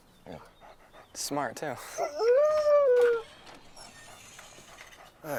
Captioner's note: Buck howls